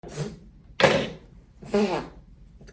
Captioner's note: comb thuds